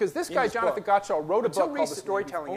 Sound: speakers echoes

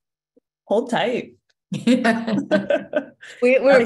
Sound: laughter

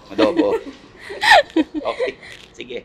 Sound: laughing

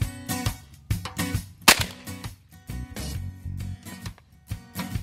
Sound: gun firing

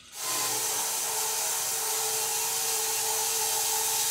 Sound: saw whirring

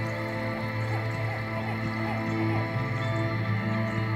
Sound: birds chirping

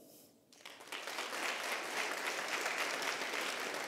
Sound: applause

